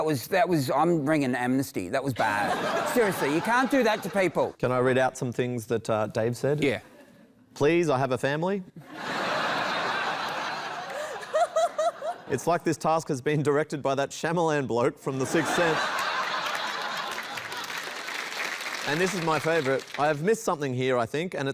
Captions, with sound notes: That was... That was... I'm ringing Amnesty. That was bad. Seriously, you can't do that to people. Can I read out some things that Dave said? Yeah. "Please. I have a family." [LAUGHTER] "It's like this task has been directed "by that Shyamalan bloke from The Sixth Sense." [LAUGHTER] And this is my favourite - "I have missed something here, I think,